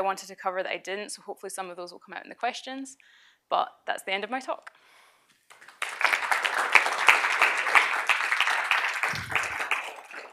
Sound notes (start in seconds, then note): 5.5 applause